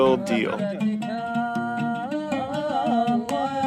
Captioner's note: chanting in foreign language